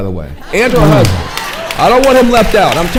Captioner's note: audience laughing, clapping